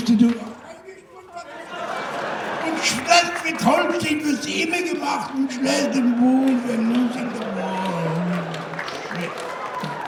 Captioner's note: Hilter immitation